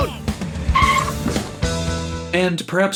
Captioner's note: brakes squeal